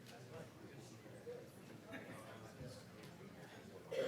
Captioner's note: ambient chatter